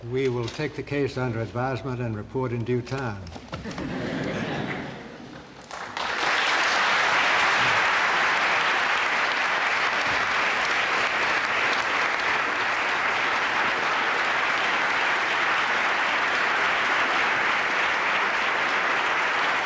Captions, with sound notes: We will take the case under advisement and report in due time. [LAUGHTER] [APPLAUSE]